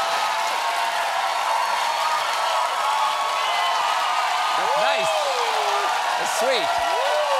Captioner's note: cheers and applause